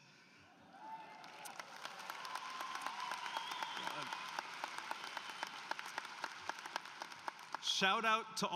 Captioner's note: applause